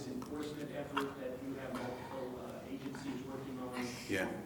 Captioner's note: away from the mic